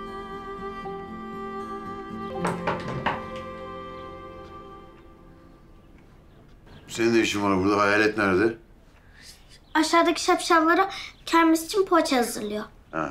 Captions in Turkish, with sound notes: (Kapı vuruluyor) Senin ne işin var burada? Hayalet nerede? Aşağıdaki şapşallara kermes için poğaça hazırlıyor.